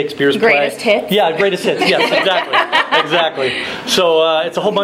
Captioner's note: laughing